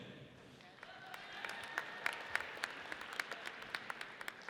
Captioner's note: audience applauds